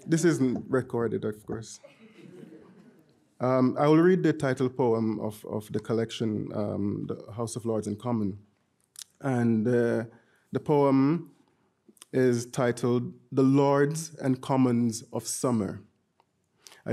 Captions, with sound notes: This isn't recorded, of course. (audience chuckling) I'll read the title poem of the collection the "House of Lords and Commons," and the poem is titled "The Lords and Commons of Summer."